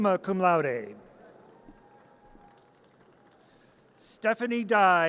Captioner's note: audience cheers